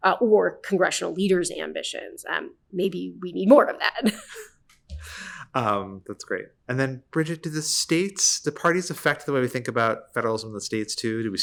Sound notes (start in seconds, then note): 5.0 laughs